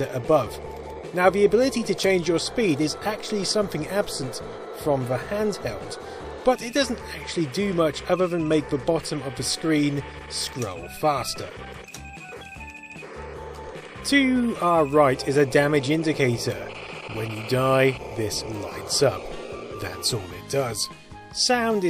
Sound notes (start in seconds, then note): 11.9 incessant beeping